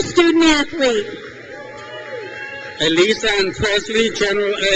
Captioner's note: crowd cheers